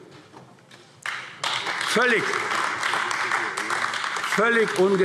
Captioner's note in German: Beifall AfD